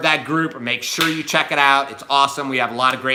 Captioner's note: hands slap